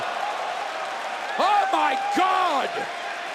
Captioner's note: crowd cheering